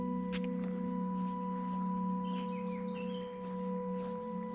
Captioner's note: birds chirping